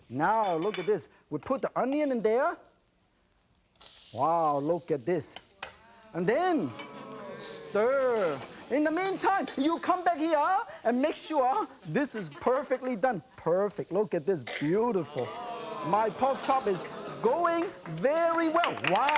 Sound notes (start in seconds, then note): 4.3 sizzling; 5.8 audience oohing; 14.6 audience oohing; 16.8 applause